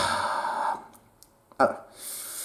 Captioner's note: sigh